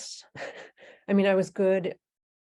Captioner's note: chuckling